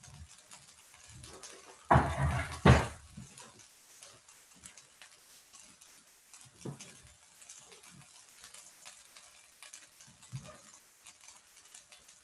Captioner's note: silence